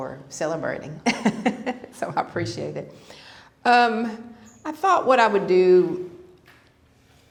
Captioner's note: laughter